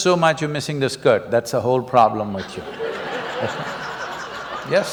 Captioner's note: laughter